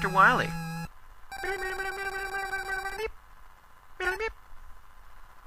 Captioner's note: imitates the score counting beepy noises